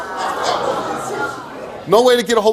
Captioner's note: audience shouting indignantly